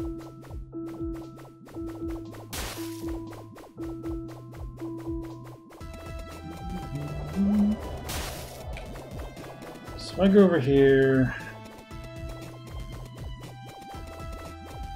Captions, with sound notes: [humming along] [earth trembles] So I go over here...